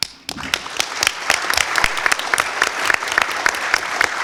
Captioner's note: audience applause